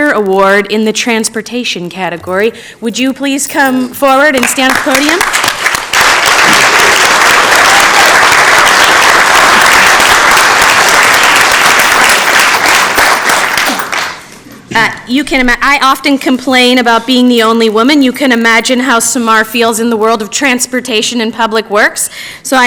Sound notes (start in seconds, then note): 15.8 applause